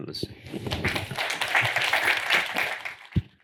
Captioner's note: applause